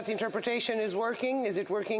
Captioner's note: off mic